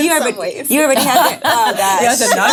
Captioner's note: laughing